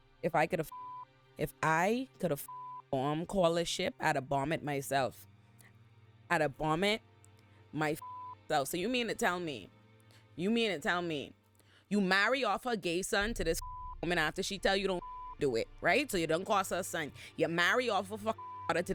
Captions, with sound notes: If I could have (beep) if I could have (beep) arm call a ship out of Barmet myself, out of Barmet my (beep) self. So you mean to tell me, you mean to tell me, you marry off her gay son to this (beep) woman after she tell you don't (beep) do it, right? So you don't cost her a son. You marry off of her (beep) daughter